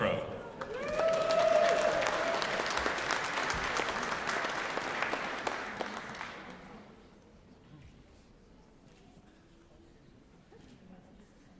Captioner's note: applause